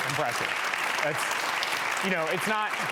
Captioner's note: audience claps